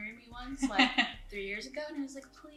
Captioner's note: laughs